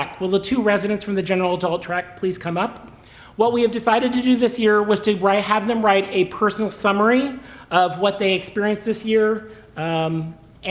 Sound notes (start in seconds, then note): none